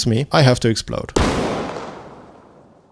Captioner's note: redacted explosion